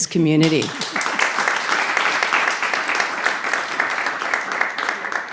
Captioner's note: audience applauding